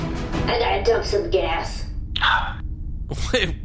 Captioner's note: sigh